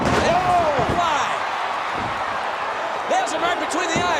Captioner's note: crowd cheering